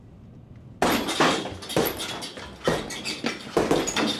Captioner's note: loud thuds